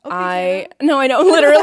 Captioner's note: both chattering